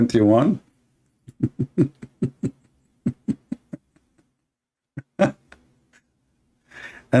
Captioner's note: Ketawa